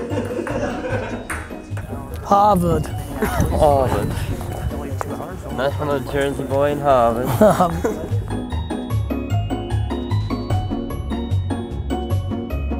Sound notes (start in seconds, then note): 7.2 Gary chuckles; 7.4 light playful music